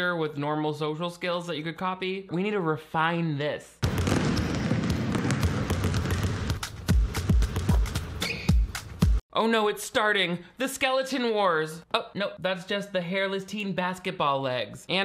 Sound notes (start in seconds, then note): 3.8 basketballs bouncing; 6.0 hiphop music